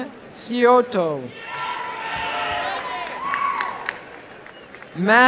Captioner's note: applause and cheering